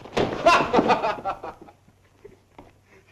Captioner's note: laughing